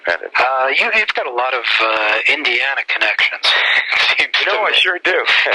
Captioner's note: laughs